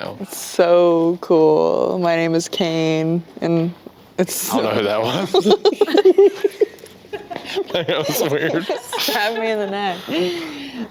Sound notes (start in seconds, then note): 5.1 both laughing